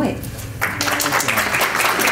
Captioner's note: applause